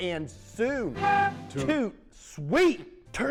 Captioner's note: horn blowing